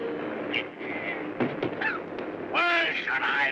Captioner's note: grumbles & coughs